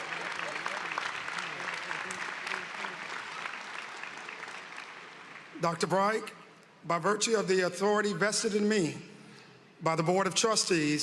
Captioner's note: applause